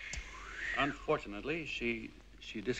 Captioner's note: all whistling